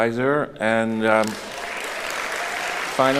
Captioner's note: applauding